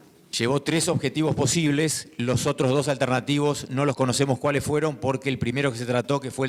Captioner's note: speaking in foreign language